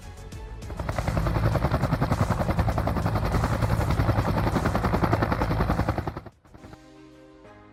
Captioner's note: sound of helicopter